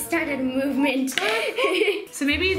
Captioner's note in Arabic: يضحك